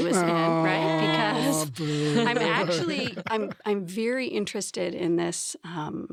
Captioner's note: laughs